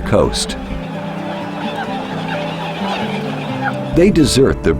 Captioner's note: squawking birds